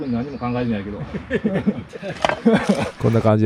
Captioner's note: laughs